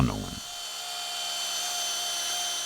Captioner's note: grinding noise